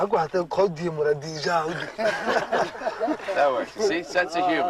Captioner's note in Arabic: التحدث بلغة أجنبية